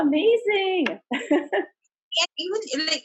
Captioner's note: laughs